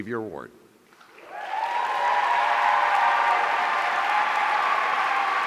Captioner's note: audience cheering